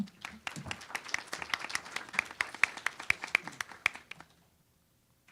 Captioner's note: applause